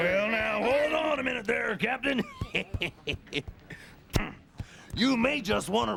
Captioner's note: snickers